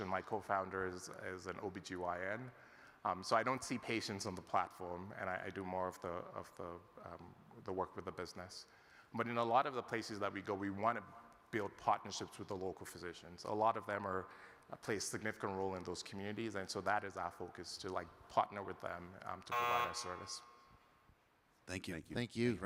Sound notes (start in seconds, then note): 19.5 timer buzzing